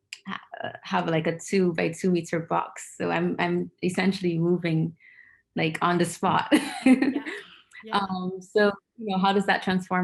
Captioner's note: laughing